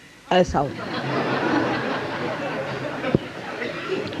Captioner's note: yogis laugh